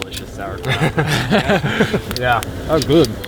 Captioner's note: all laugh